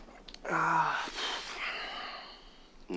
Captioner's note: gasping